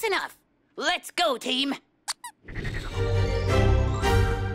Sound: toy squeaks; joyful music

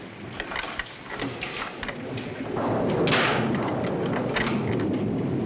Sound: thunder

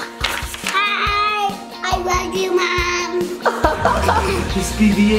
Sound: laughs

